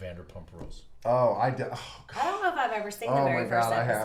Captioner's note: sighs